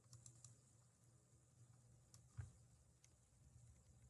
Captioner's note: mouse clickings